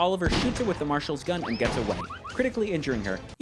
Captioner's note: cartoon sound effects